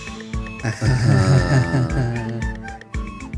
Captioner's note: awkward laughter